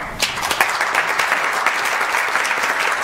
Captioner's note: applause